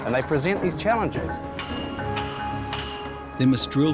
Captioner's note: hammering